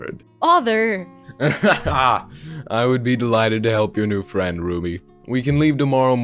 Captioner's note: laughs